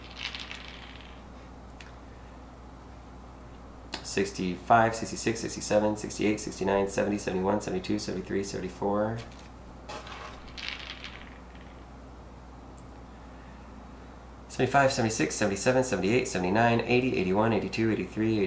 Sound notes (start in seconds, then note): none